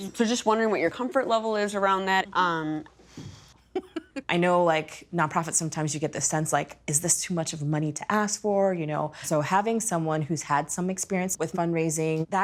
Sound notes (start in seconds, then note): 3.6 laughing